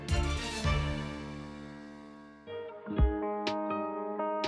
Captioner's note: echoes